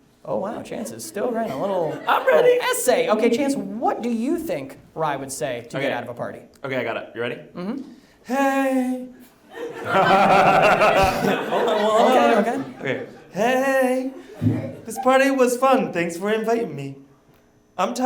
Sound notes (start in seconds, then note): 9.5 audience laughs